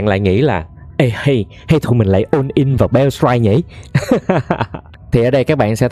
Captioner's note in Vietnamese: tiếng cười